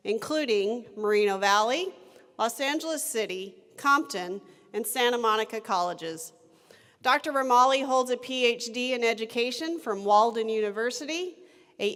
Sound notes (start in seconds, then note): none